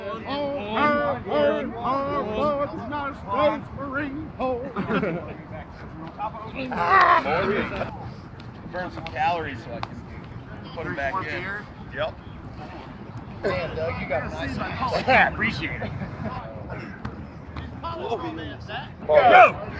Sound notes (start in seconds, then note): 6.8 veteran grunting